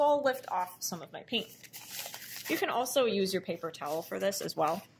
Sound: rustling sounds

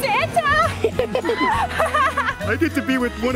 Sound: laughing

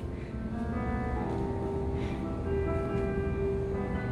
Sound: bewildered footsteps🐾

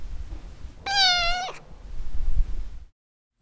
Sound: meow

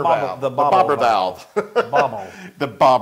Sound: laugh

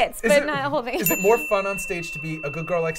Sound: bell dings

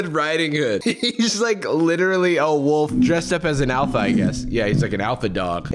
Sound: laughs

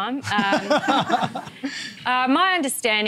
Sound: laughter

